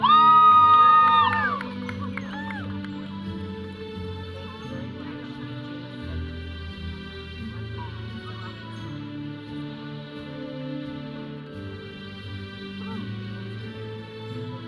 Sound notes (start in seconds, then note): 0.0 audience cheering; 0.1 processional music; 7.7 audience chattering; 7.7 processional music